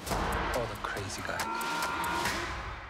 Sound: yells

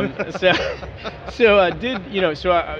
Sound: laughing

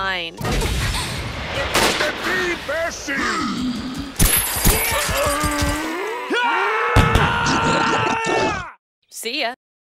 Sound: Various graphic re4 sound effects

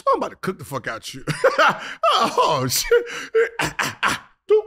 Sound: Gilbert stammers

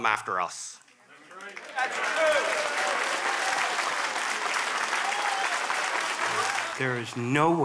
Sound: applause

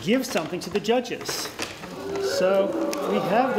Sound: cheers

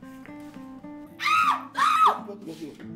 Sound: scream

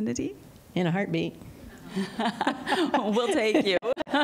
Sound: laughter

